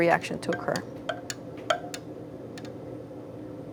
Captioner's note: flask clanking against glass